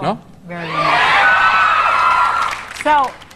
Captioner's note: audience cheering